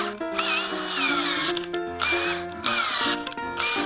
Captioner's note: drilling noise